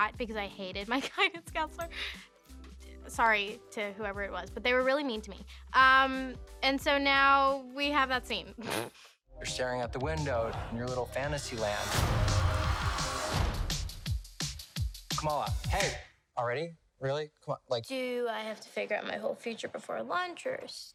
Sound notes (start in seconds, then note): 8.6 laughs